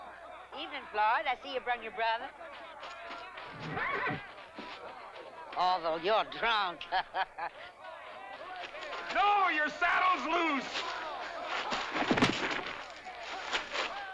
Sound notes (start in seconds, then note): 3.5 horse whinnies; 6.6 chuckles; 12.0 thump